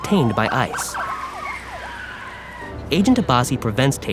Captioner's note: sirens wailing